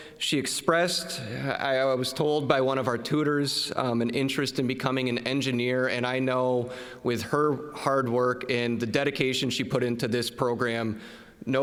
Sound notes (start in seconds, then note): none